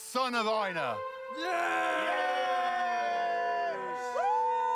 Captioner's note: villagers cheer